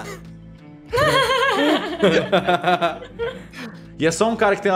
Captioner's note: laugh